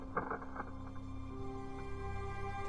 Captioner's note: cracking